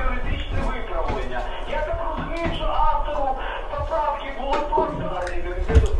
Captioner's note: radio